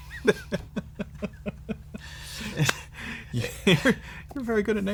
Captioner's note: laughter